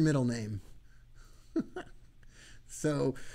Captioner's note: laughing